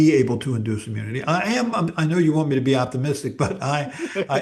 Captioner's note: laughs